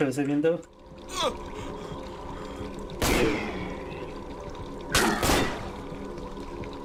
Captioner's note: gun firing